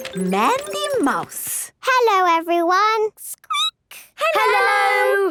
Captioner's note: squeaking